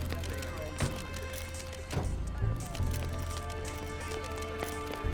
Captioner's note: van doors shut